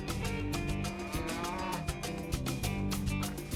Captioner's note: cow moos